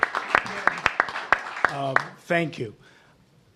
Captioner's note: applause